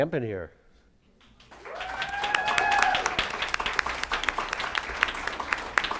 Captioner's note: applause